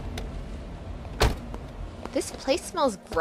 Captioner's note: car door slam